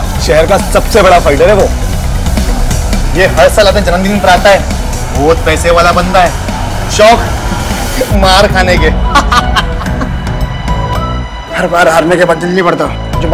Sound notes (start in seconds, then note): 9.0 Laughing